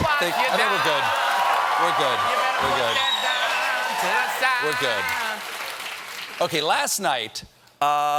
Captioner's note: cheers and applause